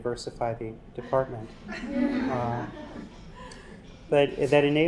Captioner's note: laugh